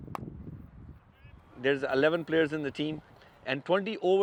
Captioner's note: ball and bat thudding